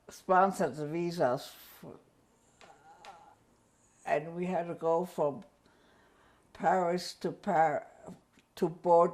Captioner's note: pauses for 3 seconds